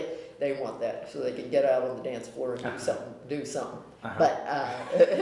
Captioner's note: laughter